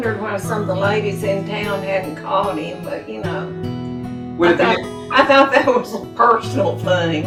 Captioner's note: chuckles